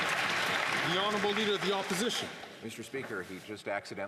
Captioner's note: some Applause